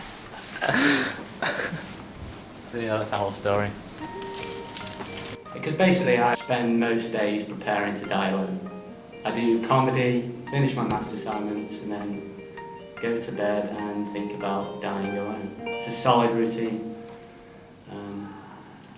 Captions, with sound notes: [laughs] So yeah, that's the whole story. Because basically I spend most days preparing to die alone. I do comedy, finish my maths assignments and then go to bed and think about dying alone. It's a solid routine. Erm...